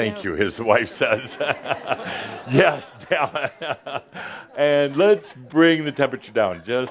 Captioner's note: Adamus chuckles; Adamus chuckles